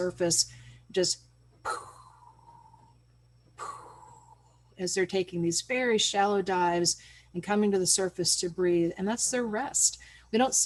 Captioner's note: makes a breath sound